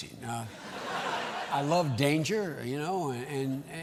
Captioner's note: laughter